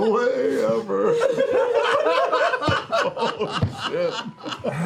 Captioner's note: laughter